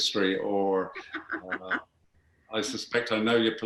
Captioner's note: laughing